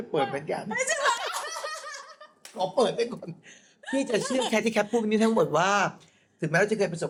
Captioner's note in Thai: เสียงหัวเราะ